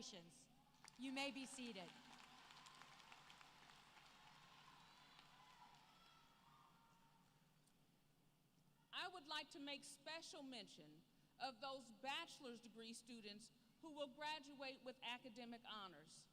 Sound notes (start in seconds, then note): 0.7 applause